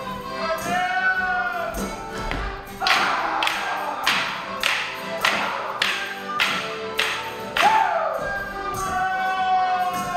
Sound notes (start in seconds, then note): 0.9 man hollering; 2.1 sticks thudding